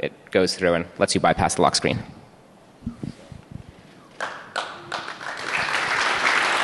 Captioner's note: applause